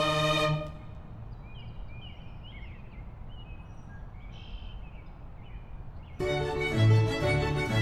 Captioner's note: ambient outdoor noise